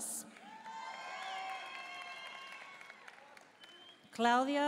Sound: audience cheering and applauding

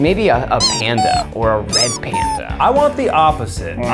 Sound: squeaking

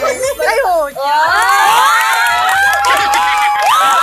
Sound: screams

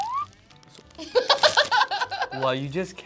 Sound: laughs

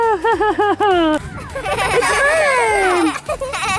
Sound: laughing; children laughing

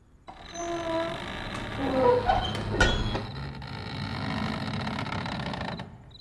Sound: door creak opens slowly

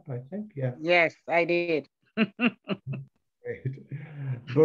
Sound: laughs

